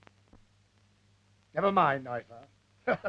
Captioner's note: laughs